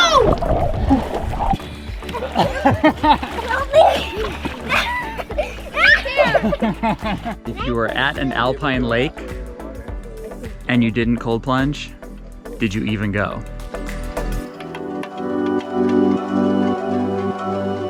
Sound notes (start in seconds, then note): 0.0 water splashing; 1.7 laughing; 2.1 laughing happily; 4.6 everyone laughing amusingly; 13.4 gentle ethereal music